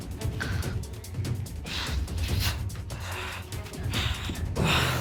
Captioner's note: retches, breathes heavily